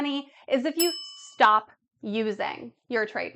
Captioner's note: bell ringing